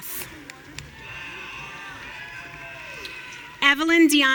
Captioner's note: audience cheering